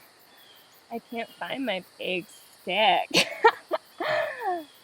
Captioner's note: laughs